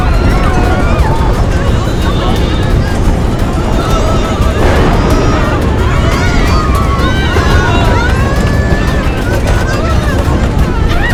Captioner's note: screaming